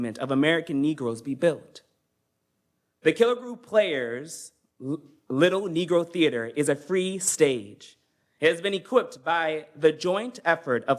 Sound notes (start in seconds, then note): none